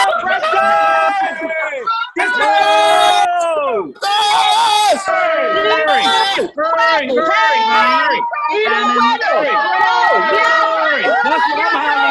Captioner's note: cheering